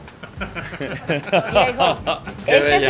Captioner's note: millionaire laugh